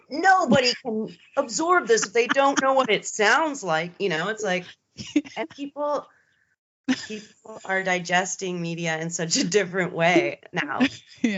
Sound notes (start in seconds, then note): 6.9 giggling